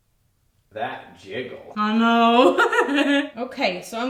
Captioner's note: giggles